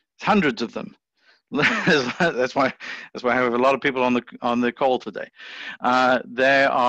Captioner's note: chuckles